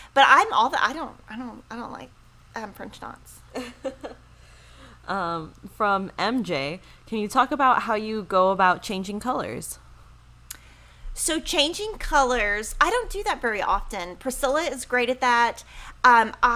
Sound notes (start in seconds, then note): 3.5 laughs